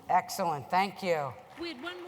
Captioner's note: applause